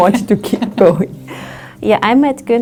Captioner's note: laughs